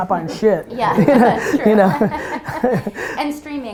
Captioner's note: group laughter